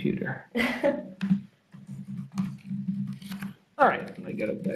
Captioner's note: laughing